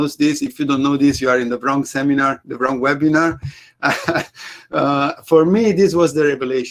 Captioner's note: chuckles